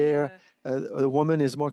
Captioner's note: speaking French